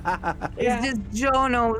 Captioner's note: laughs